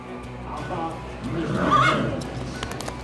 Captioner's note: suspense music; horse whinnies; fast hoofbeats